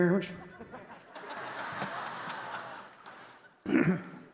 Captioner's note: audience laughing